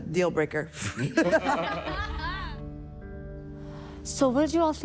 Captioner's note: judges laughing